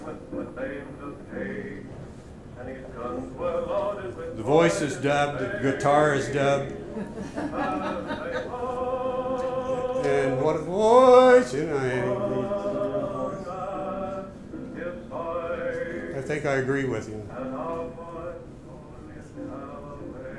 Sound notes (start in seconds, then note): 0.0 singing; 6.9 laughter; 8.3 singing